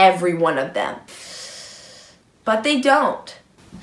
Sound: inhales sharply

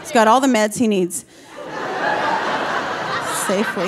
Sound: audience laughing

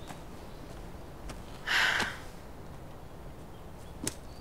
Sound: sighing

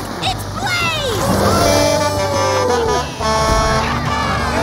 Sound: horn honking; cheering

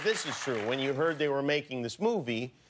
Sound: cheers and applause

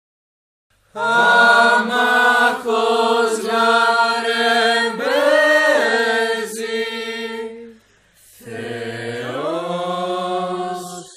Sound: chanting

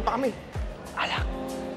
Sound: whispers

